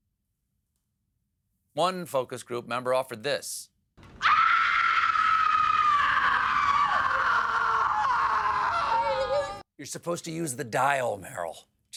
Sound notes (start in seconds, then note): 4.1 screaming